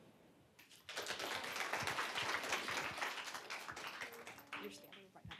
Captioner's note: applause